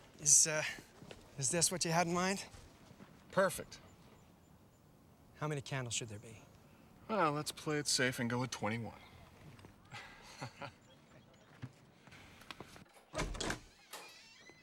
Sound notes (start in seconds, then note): 9.8 laughs